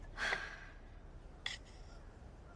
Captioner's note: sighs